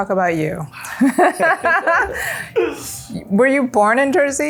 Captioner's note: laughs